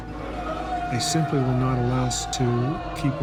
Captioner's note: voiceover